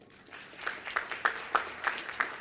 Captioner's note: applause